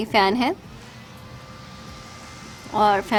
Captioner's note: fan whirring